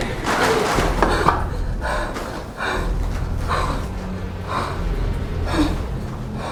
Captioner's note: plastic tarp rustles; Tina pants